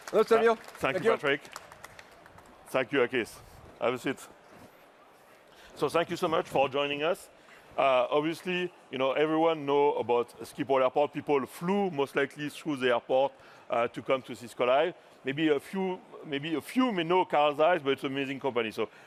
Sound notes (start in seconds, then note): 4.0 applause